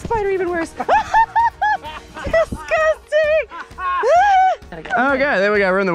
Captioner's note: laughs